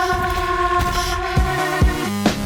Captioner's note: distorted voices speaking